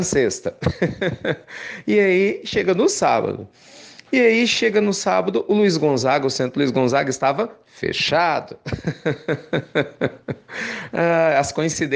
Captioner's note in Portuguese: risos; risos